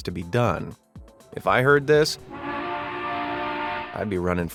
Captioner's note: long horn blaring